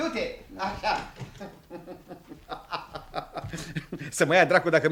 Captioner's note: laughs